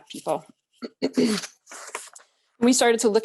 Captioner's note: clears throat